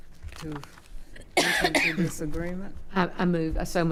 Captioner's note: coughing